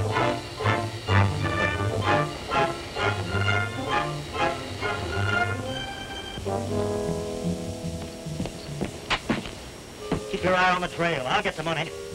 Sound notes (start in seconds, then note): none